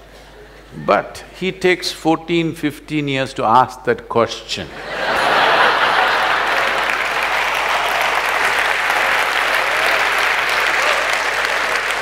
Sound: laughter; laughter/Applause

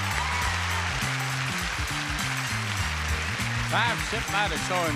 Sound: audience applauding

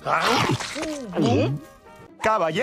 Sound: gulp

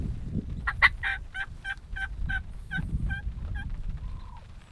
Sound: turkey calls

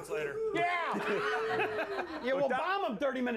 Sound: laughter

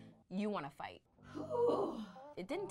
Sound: groans

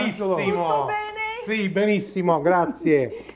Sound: speaking Italian

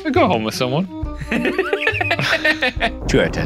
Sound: laughing

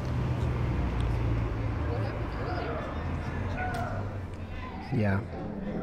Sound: vehicles whirring

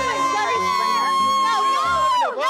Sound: screaming

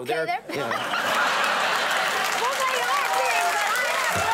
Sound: audience laughing

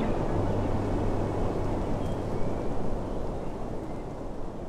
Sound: nature chattering

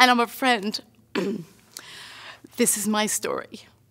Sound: clears throat

